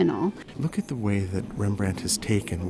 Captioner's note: voiceover